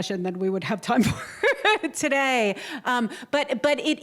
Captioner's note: laughter